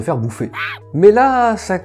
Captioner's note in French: cri de singe